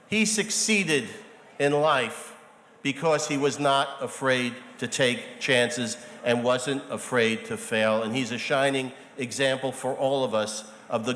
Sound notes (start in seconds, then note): none